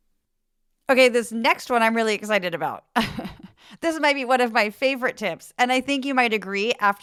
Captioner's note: laugh